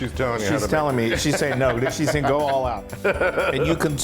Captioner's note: laugh